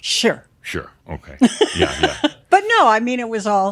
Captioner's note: she chuckles